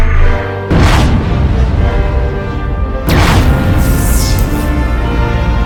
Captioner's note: space ship engine roars